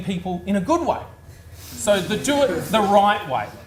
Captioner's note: audience laughs